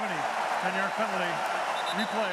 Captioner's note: cheering